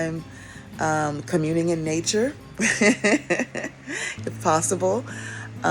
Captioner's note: laughs